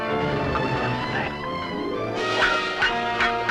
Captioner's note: speaks in french